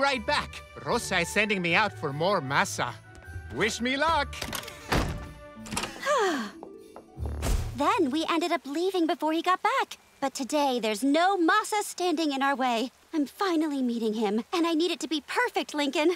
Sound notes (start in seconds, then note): 5.8 sighing